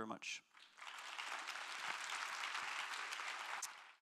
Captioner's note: applause